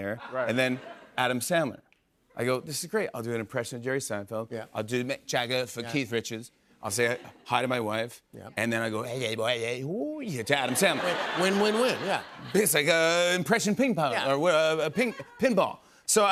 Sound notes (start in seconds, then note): 9.4 speaking gibberish